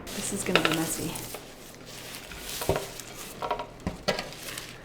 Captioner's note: potatoes crunching; dish clattering